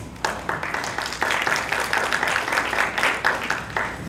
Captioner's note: clapping